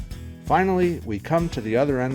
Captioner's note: voiceover